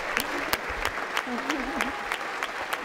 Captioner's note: laughter